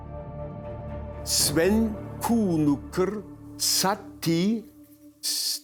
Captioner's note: speaking ancient Germanic language